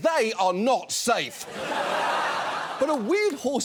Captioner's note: audience laughs